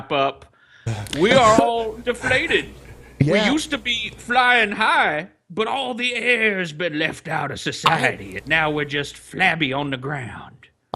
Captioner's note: imitating Congreessman